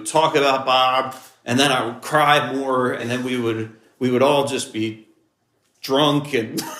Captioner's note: laughs